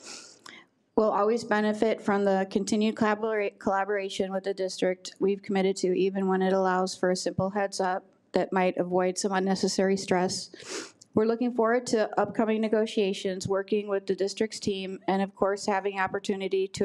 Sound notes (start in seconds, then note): none